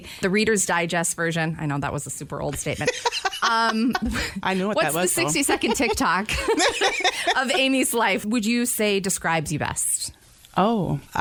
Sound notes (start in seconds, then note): 4.9 laughs; 6.8 laughter